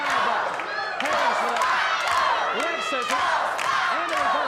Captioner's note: audience chanting